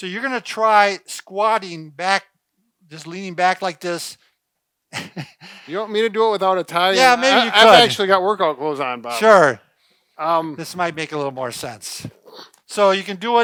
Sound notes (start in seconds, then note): 6.9 laughing